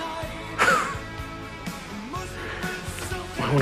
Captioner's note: laughs